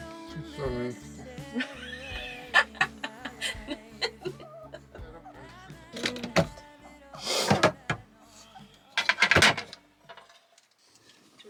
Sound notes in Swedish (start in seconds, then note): 1.7 Skratt